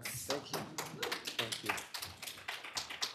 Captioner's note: applause